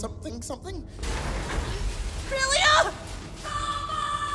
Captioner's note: crashing sounds of an approaching armored warrior